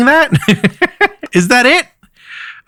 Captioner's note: chuckles